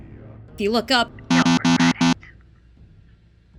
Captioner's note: loud buzzing; under radio static